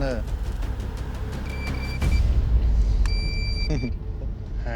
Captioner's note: beeping